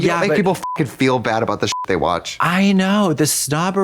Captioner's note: beep